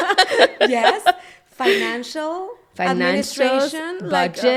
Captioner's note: both laughing